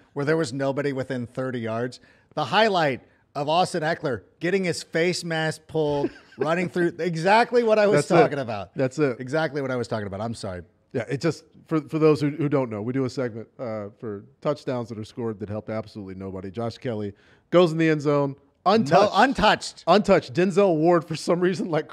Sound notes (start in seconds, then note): 10.2 laughter